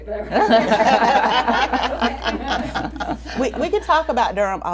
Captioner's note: everyone laughs